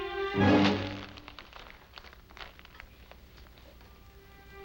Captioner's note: paper rustling